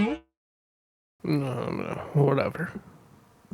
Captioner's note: grumbles